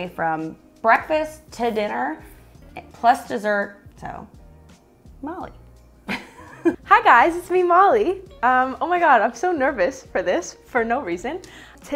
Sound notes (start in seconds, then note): 6.0 laughing